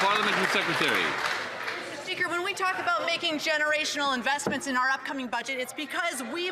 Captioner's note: some Applause